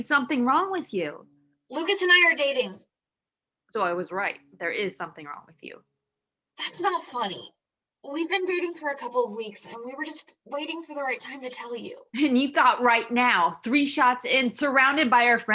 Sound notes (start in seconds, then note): none